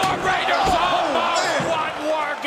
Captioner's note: crowd cheering